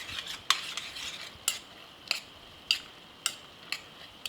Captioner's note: spoon clacking